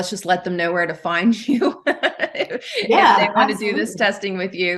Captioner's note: laughing